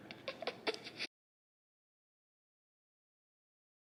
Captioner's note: laughs